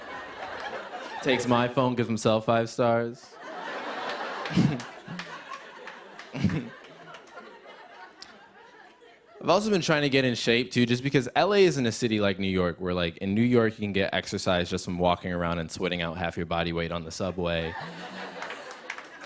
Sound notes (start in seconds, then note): 3.4 chuckling; 17.6 chuckles